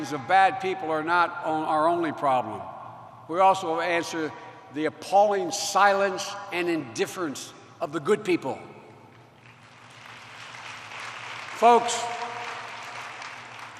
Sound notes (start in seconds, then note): 9.3 applause